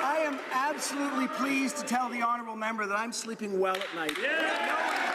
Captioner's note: some Applause